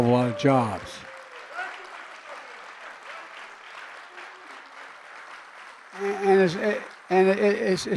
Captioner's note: applause